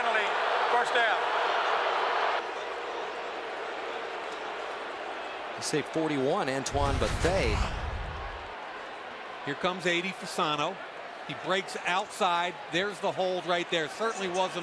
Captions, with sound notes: 5-yard penalty. First down. [crowd clamoring] Say 41, Antoine Bethea. Here comes 80, Fasano. He breaks outside. There's the hold right there.